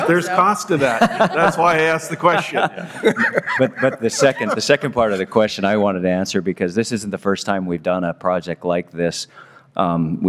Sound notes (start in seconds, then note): 4.6 laughter